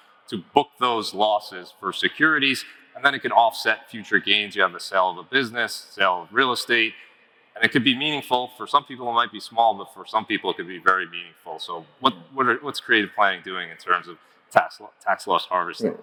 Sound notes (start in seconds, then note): none